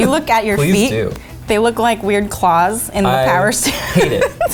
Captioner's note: laughs